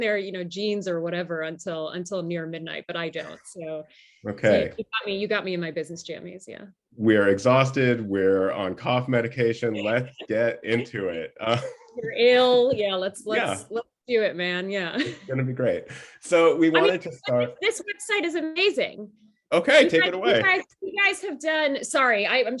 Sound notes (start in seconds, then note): 10.7 laughter